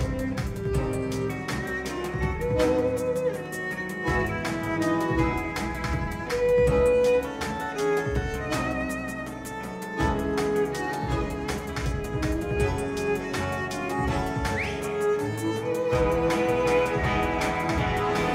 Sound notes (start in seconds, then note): 14.4 someone whistles